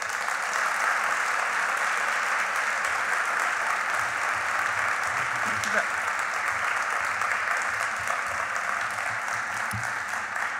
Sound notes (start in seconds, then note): 0.2 applauding; 5.3 speaks faintly